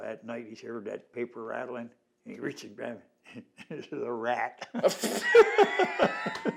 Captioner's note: laughter